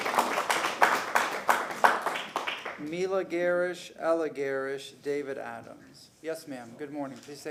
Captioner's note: applause